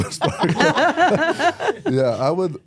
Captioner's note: everyone laughs